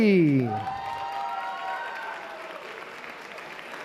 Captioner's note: applause